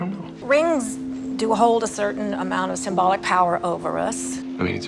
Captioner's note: voiceover